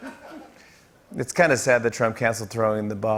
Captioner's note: normal voice